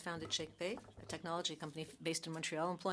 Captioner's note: speaking French